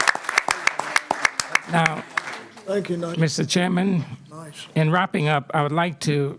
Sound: applause

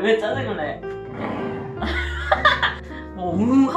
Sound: growling

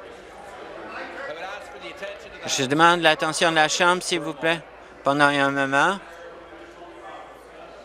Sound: conversation din

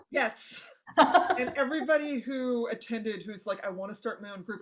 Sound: laughing

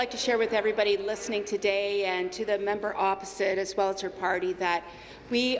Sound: applause

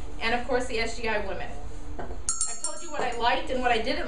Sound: bell ringing

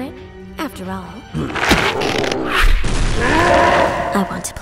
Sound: grunts

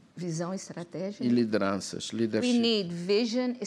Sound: speaking portuguese

